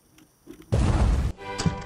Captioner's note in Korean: 빵!